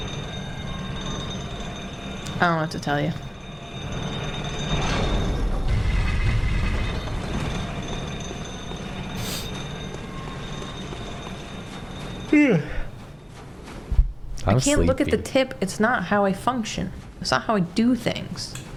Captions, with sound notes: I don't know what to tell you. [yawn] -I'm sleepy. I can't look at the tip. It's not how I function. It's not how I do things.